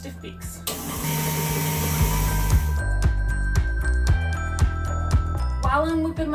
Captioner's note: soft gentle music; dough mixer whirring